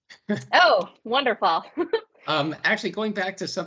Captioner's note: laughs